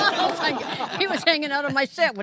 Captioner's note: audience laughing